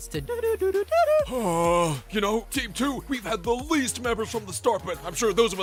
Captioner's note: sigh